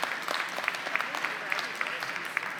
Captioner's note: applause